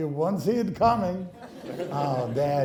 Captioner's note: laughing